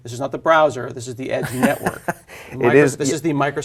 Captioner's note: laugh